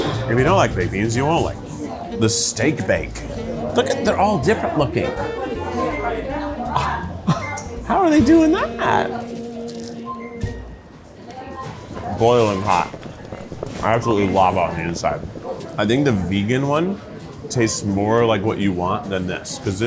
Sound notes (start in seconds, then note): 6.3 scoffs; 11.8 bubbles gurgling